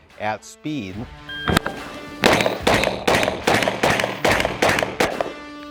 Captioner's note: gunshots popping